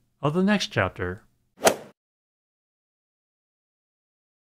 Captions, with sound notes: of the next chapter. [swoosh]